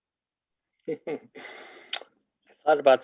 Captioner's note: chuckles